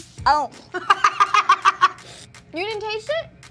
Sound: laughing

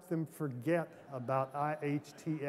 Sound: laughter

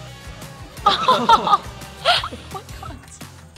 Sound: laughing

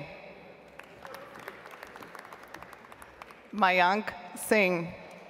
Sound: audience applauds

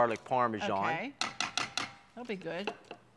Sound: pot clanking

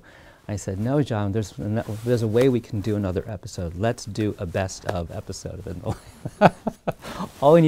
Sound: laughing

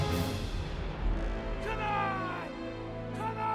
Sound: yelling

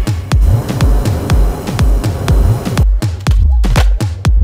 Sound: fire puffs

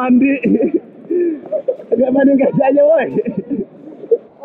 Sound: laughs

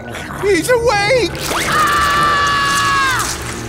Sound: screaming

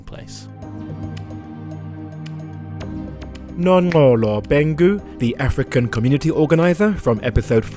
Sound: voiceover

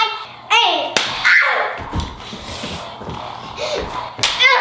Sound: screams; grunts

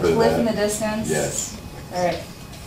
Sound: voiceover

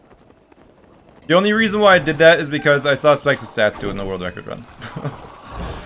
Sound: laughs

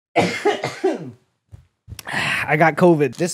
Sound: cough cough

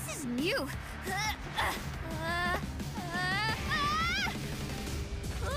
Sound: whimpering, screaming

